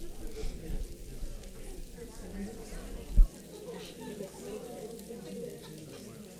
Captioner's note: paper crinkling and audience chattering